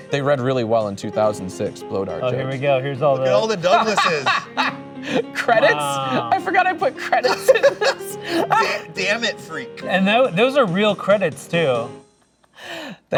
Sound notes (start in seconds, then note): 3.2 laughing